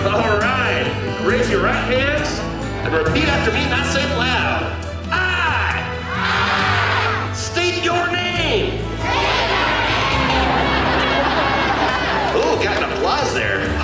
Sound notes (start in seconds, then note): 6.0 cheering; 9.0 crowd laughing